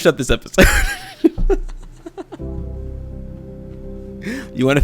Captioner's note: laughs